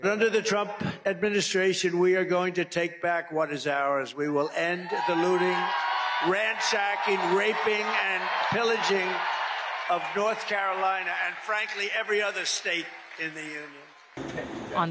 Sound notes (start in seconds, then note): 4.1 cheering